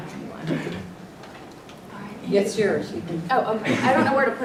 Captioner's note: laugh